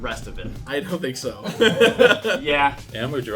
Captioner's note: laughs